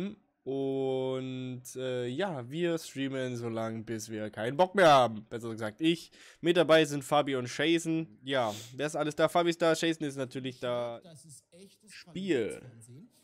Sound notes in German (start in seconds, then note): 10.2 Hintergrundunterhaltung